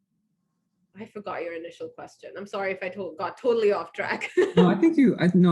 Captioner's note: laughs